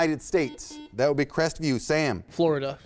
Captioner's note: buzzer sounds